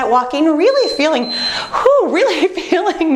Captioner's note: beeping